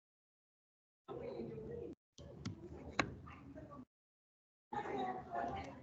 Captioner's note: people chattering softly